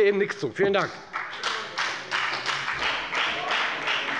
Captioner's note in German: Beifall bei der FDP